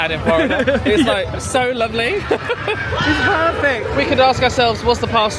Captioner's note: laughs